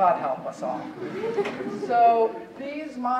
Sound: audience chuckling

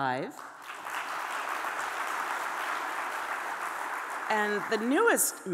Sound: audience applauding

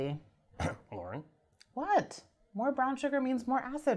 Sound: cough

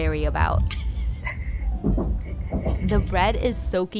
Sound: both laughing

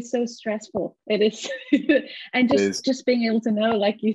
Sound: laughs

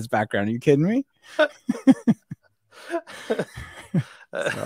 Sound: both laughing

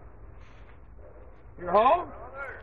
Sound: man shouting in the distance

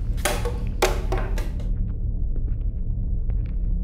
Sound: bottle bounces

